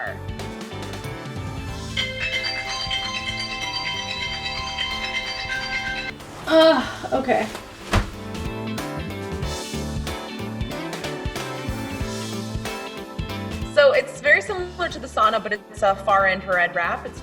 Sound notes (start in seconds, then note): 0.2 lively music; 1.9 alarm chiming; 8.2 lively music